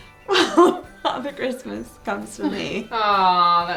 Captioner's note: laughs